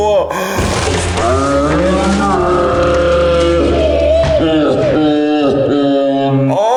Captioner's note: cone cracks; distorted shouting